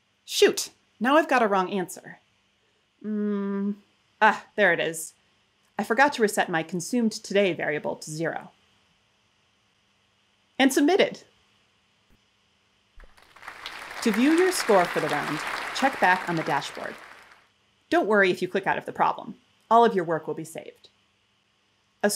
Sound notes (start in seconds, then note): 13.0 applause